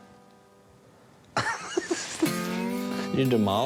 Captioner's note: laughs